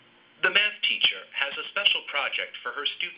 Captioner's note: male Voice